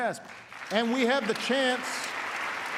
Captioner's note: applause